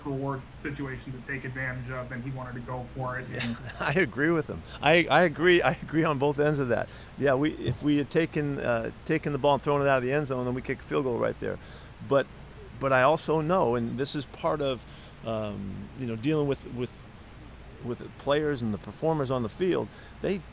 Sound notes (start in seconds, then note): 3.3 laughs